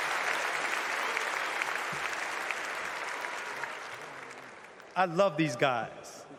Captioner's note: cheers and applause